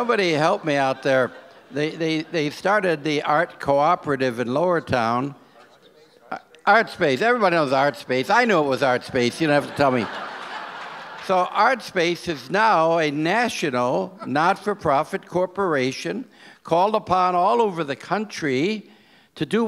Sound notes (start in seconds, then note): 5.8 overlapping chattering